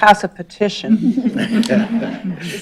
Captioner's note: laughter